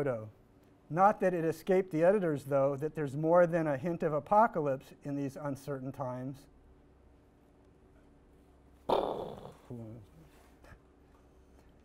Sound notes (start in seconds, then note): 8.9 sighs